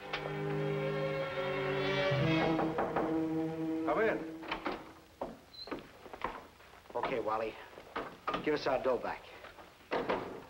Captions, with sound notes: (dramatic music playing) (knocking on door) - Come in. - Okay, Wally. Give us our dough back.